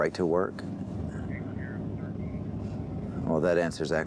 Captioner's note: on phone